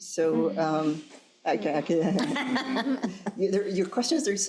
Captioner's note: crowd laughing